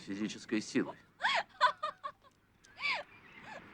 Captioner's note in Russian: женский смех